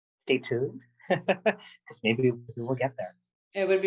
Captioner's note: laughter